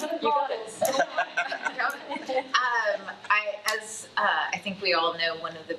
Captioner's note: attendees laughing; attendees chattering